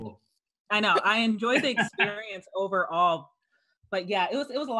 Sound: laughs

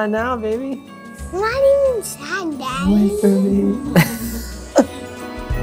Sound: laughs

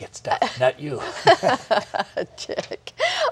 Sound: laughter

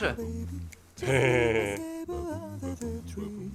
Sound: laughing

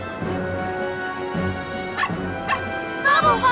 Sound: barking

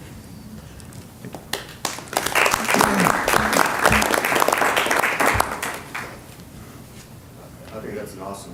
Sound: applause

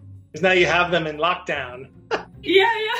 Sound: laughs

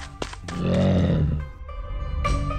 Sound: snarl

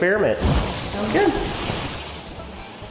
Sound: milk splashes

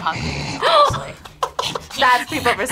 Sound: growls; laughs

